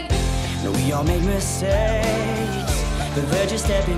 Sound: whooping

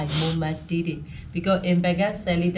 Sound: speaks in foreign language

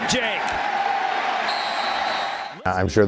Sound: crowd cheers and whistle blows

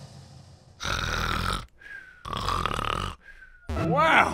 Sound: snoring

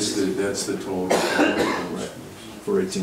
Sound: coughs

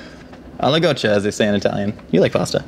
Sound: in foreign lanugage

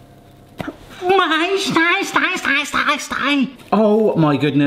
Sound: yelps and gibbers

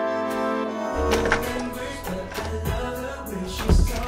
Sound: door rattles

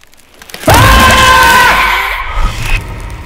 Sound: alex screams

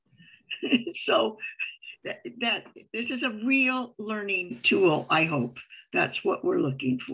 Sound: chuckles

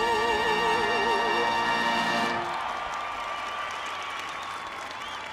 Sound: applause

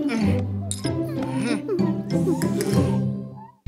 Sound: drinking

